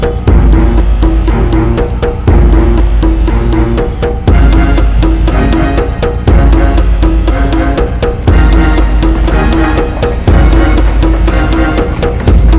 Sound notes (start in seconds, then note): none